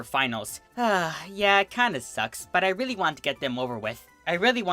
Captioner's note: sigh